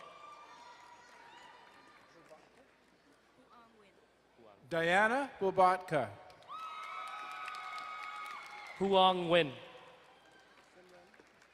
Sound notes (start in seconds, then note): 0.2 distant cheering; 6.4 crowd cheering and applauding